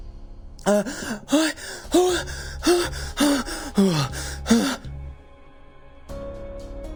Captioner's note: ragged breathing